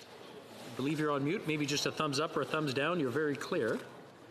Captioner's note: speaking French